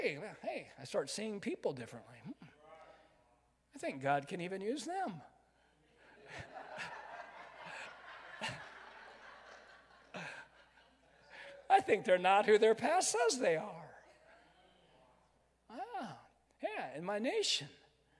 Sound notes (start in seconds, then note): 3.0 crowd; 6.2 crowd laughs